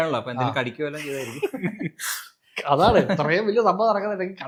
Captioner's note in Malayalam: പൊട്ടിച്ചിരി